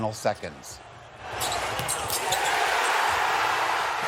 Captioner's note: cheering